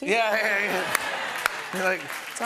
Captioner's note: applause